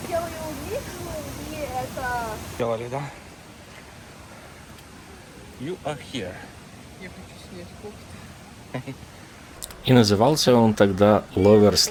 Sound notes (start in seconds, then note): 5.7 speaking in English; 8.7 sound of water